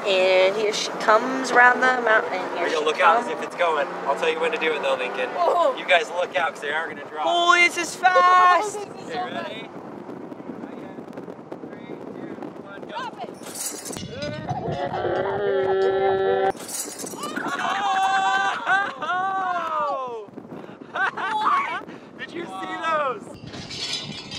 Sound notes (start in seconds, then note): 13.7 clanking; 13.7 yelling; 17.2 laughing